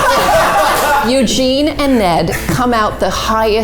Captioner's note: all laughing